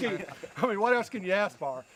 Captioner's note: laughing